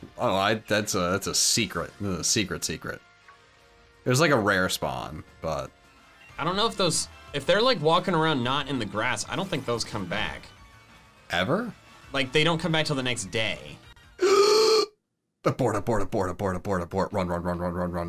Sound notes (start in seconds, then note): 14.2 inhales deeply